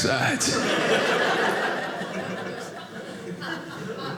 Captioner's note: audience laughing